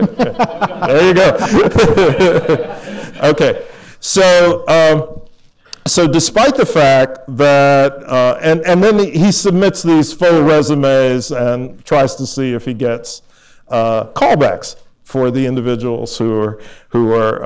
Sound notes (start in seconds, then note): 0.0 laughter